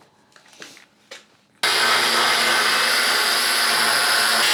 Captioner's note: welding